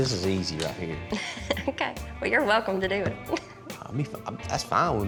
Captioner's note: chuckles